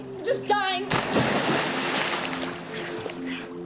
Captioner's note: loud splash